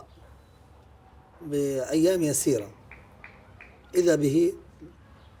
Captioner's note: speaking in Arabic